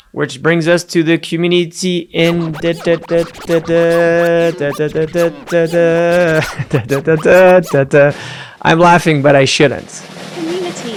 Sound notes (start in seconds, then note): 5.7 laughing; 5.7 scratching record sound